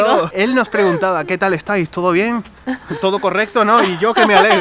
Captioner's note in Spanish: risas